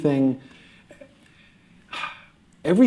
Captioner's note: sighs